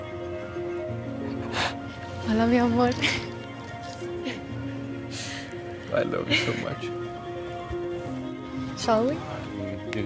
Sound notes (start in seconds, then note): 0.1 upbeat music; 1.6 Pablo cries; 7.0 upbeat music